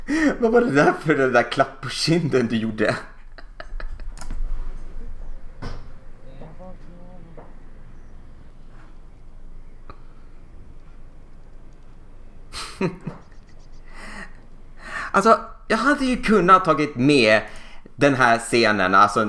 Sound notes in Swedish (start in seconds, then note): 12.6 Små fnittra